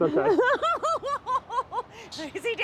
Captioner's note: laughs